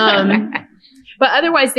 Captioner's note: laughter